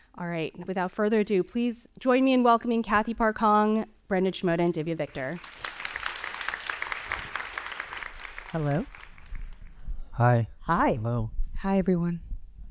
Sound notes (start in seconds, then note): 5.3 audience applauding